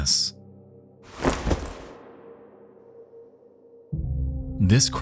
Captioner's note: cross rustles